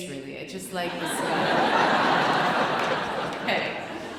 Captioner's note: audience laughing loudly